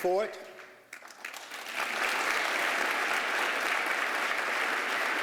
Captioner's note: applause